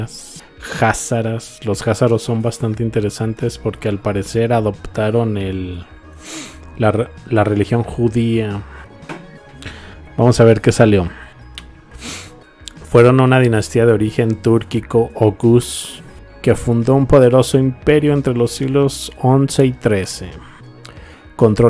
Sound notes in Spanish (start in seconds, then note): 7.0 resoplido